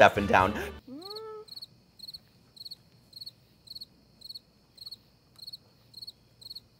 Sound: crickets chirping

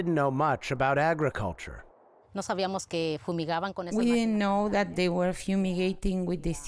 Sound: through translator

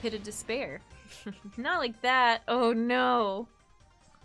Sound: snickering

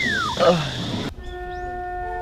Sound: sighs

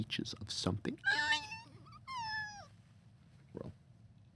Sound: screeching

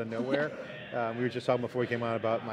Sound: laughing

